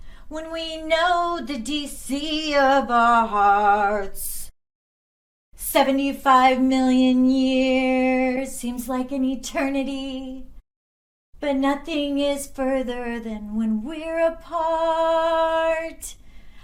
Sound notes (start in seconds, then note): none